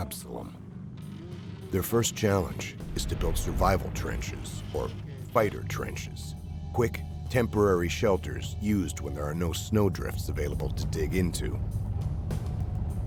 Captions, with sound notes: - [Voiceover] Day one. The team starts training near the hotel. Led by local Inuit subject matter experts Simon Idlaud and his son Absolom.